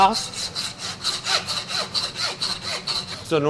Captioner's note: saw sound